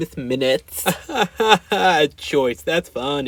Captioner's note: fake laugh